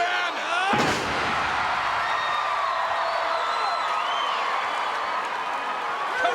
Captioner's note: crowd cheering; bodies thud